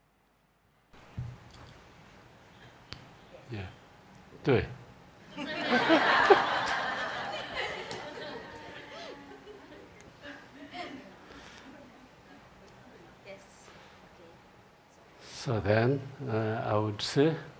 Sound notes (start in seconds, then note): 5.3 laughter